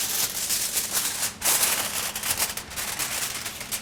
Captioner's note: sound of aluminum foil